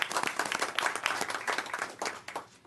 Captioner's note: applause